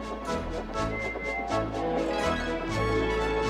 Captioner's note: toots